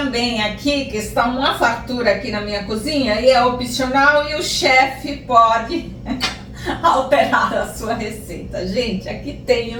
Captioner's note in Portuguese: risos